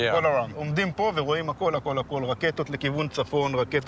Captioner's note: in Hebrew